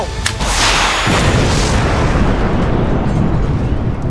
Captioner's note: car explodes